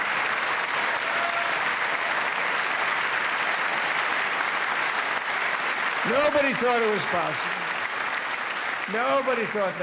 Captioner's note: applause